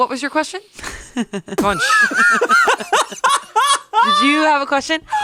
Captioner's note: laugh